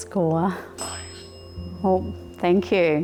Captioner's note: bell